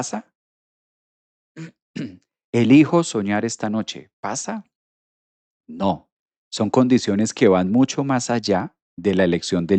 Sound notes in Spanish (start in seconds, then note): 1.9 carraspeo